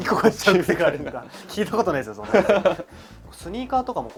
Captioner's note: laughs